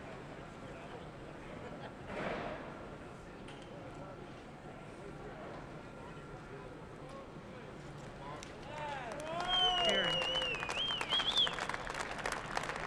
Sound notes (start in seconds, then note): 9.2 whistling; 10.7 applause